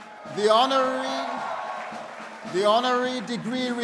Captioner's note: people cheering